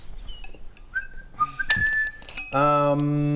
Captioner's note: whistles to give away location